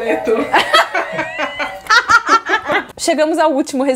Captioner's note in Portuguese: risos